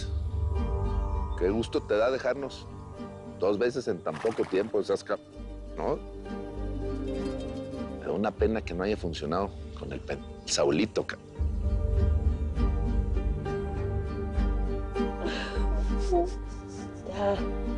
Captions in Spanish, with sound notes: - MIRA NADA MAS QUE GUSTO TE DA DEJARNOS DOS VECES EN TAN POCO TIEMPO. NO SEAS C---, ¿NO? ME DA UNA PENA QUE NO HAYA FUNCIONADO CON EL P--- DEL SAULITO, C---. [Sollozos]